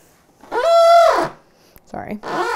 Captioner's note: screeee